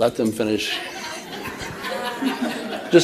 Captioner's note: laughter